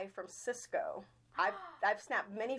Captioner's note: gasping